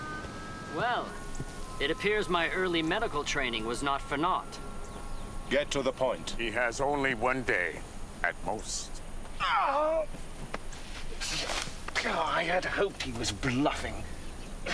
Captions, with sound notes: Well, it appears my early medical training was not for naught. - Get to the point. - He has only one day. At most. - (groans) I had hoped he was bluffing.